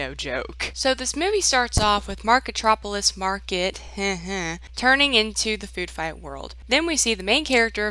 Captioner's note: he-he